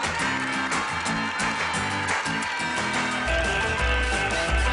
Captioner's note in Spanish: Aplausos